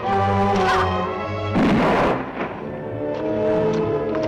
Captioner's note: gunshot